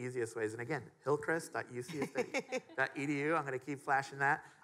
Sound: laughing

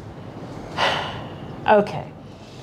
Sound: sigh

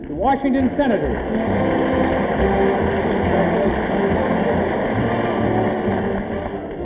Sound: audience applauding

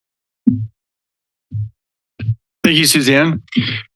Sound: mic thumping

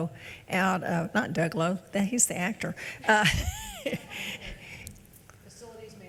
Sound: laughs

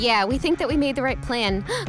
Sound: sigh

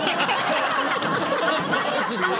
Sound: laughing

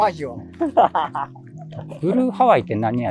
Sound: laughing

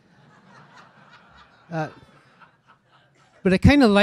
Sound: audience laughing

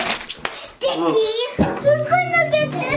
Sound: portal goo squelching

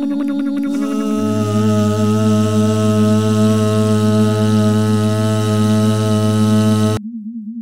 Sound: motor slowing down

